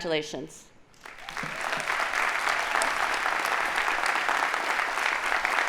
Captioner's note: audience applauding